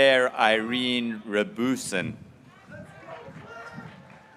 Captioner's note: graduates cheering